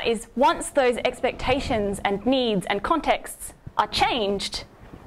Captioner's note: none